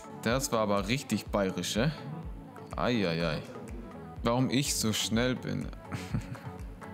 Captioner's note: laughs